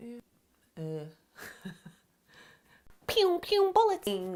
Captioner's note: chuckling